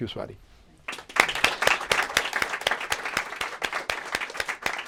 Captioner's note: applause